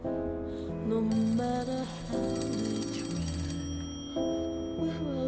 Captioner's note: phone ringing